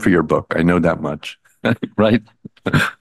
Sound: chuckles

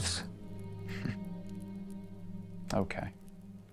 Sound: Charlie chuckles

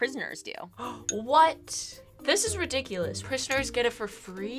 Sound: gasps

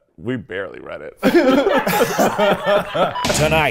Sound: laughing

